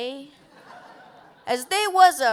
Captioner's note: laughter